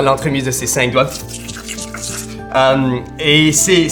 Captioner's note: vocalizes an electric current